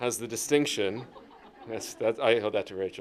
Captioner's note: laughter